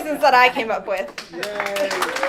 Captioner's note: applause